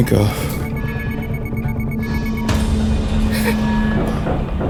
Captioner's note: system beeping